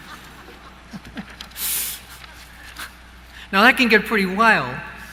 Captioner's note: laughter